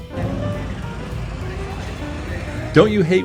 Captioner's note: people chattering